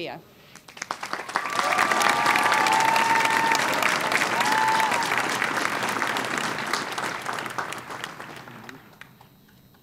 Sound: applause

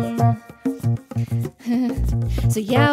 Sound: nervous laugh

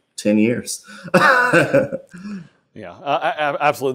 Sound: laughs

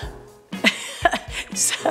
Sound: laughs

